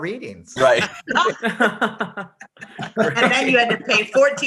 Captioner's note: group laughing